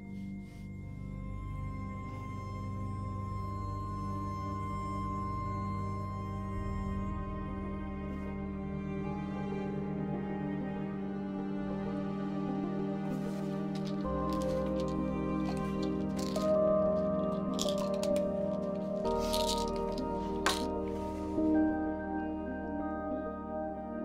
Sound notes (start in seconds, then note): 0.1 expressive, vaguely ominous orchestral music; 13.7 pills rattling; 20.1 expressive electronic music